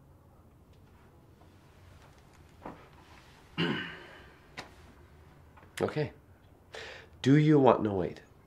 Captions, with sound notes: (clears throat) Okay. Do you want noid?